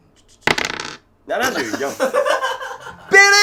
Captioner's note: laughing